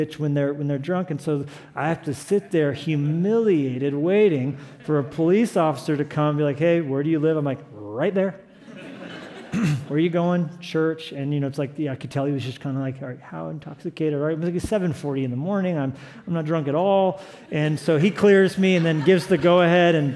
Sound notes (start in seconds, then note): 8.6 laughter